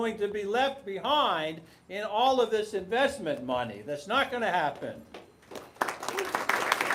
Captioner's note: applause